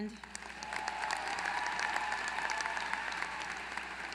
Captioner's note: applause